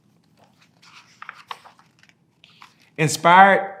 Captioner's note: pages rustling